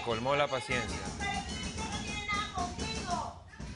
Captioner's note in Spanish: golpes en la ventana